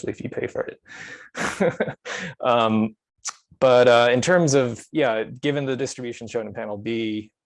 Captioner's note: chuckles